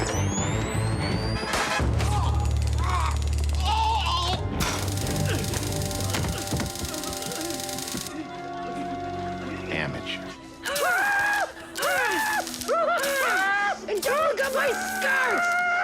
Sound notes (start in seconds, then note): 1.6 taser buzzing; 2.0 pained groaning; 4.6 taser buzzing; 5.2 grunting; 10.6 screaming; 15.6 grunting; 15.6 screaming